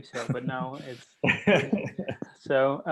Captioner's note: laughing